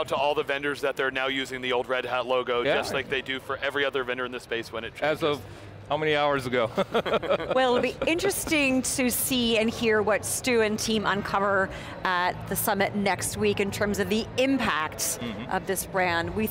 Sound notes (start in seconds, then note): 6.8 laughing